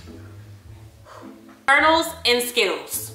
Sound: exhales tensely

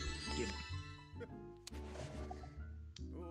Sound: laugh

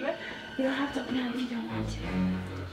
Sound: whispering

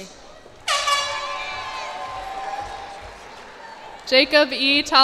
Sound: cheers and applause

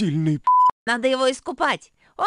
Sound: beep

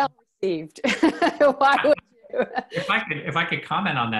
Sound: laughs

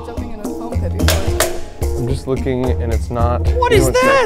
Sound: cannon clacking

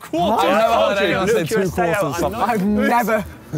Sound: chattering

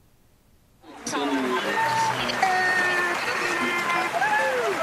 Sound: graduates applauding

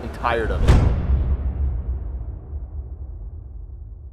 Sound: dramatic thud

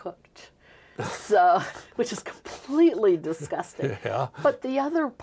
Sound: both laughing

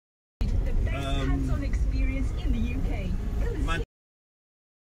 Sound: radio sounds

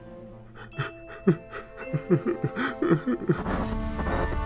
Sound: tearful crying

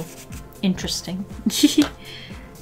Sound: giggles

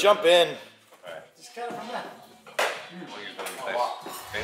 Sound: background chattering

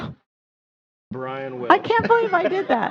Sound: laughter

